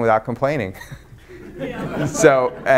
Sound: audience laughs

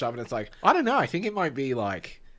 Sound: speaking in Australian accent

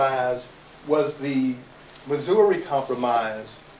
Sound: none

